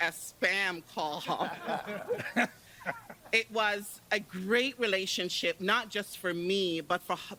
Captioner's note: laughter